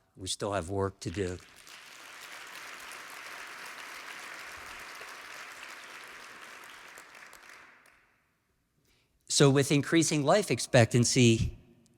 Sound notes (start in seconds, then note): 2.5 applause